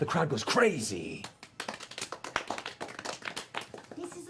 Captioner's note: applause